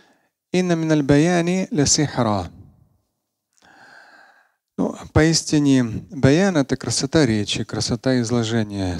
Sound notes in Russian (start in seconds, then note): 0.7 говорит на арабском